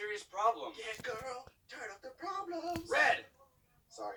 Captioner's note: autotuned voice; screaming